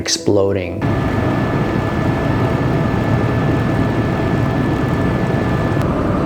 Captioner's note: helicopter engine humming